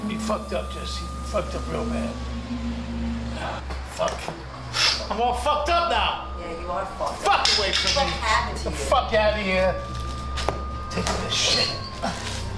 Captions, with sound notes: You fucked up, Jesse, Fucked up real bad. Fuck. (snorting) I'm all fucked up now! - Yeah, you are fucked. - Get the fuck away from me! - What happened to you? - Get the fuck out of here! I'm takin' this shit.